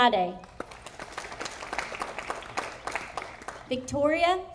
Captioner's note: audience applauding